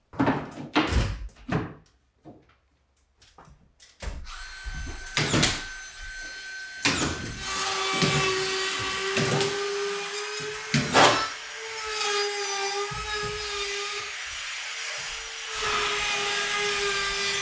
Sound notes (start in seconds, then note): 4.6 nail gun banging; 7.4 saw buzzing